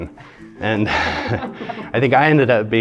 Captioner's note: interviewer laughing